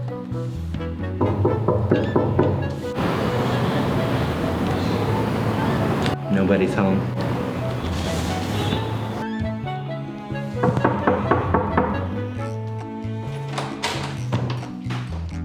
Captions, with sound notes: (knocks on door) (upbeat music) - Nobody's home. (knocks on door)